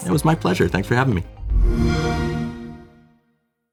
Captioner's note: xbox sound